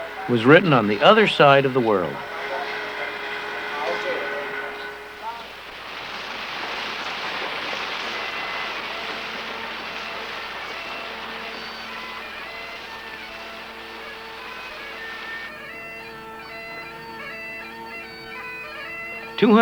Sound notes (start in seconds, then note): 5.9 river running; 12.8 bagpipes playing